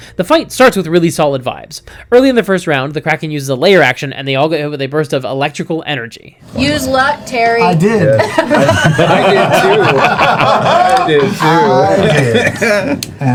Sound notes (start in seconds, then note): 8.6 laughs; 11.5 all laugh